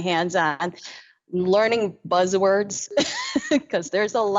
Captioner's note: laughs